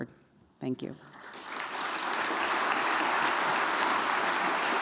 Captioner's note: applause